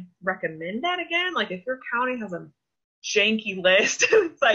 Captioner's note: laughs